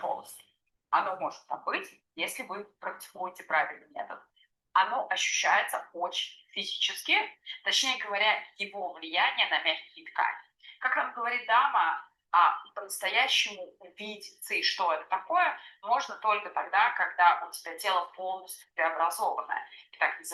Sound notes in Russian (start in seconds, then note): none